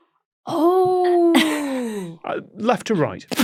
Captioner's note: cracks up